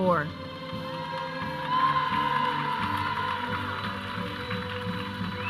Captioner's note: audience cheering